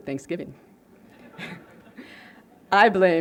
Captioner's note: laughter